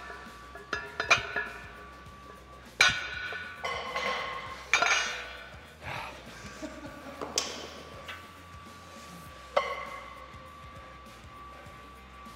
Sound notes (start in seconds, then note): 5.8 laugh